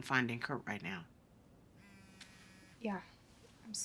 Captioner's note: phone vibrating